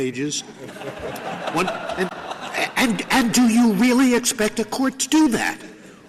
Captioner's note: laughter